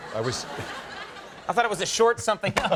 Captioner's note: crowd laughing